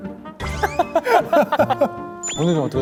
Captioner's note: bursts out laughing